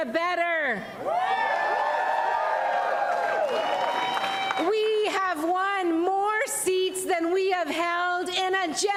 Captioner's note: applause